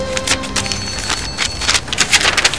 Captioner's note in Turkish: Telefon çalıyor